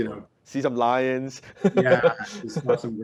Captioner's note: laughs